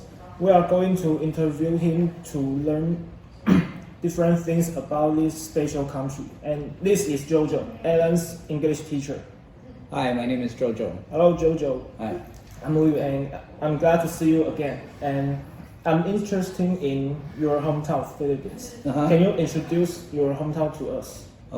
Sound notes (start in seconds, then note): 3.4 cough